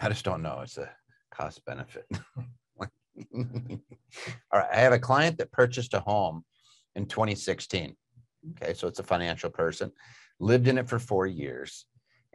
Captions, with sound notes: - I just don't know, it's the cost benefit. (both chuckling) I had a client that purchased a home in 2016. Okay, so it's a financial person. Lived in it for four years,